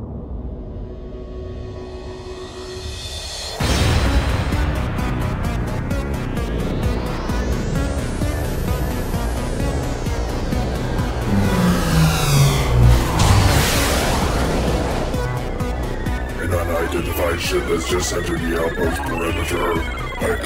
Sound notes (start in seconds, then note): 3.6 dramatic synth music; 6.3 portal buzzing; 12.1 spacecraft buzzing and whooshing